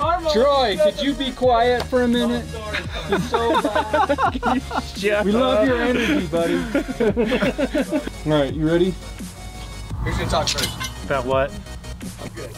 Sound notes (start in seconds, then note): 2.6 laughing